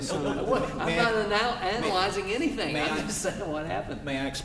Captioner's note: laughter